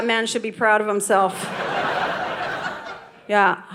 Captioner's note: audience laughing